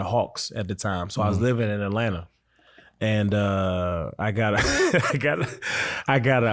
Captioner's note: laughs